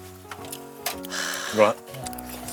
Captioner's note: exclaiming